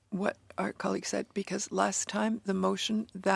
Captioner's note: speaking in French